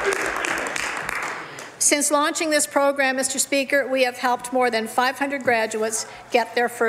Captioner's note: some Applause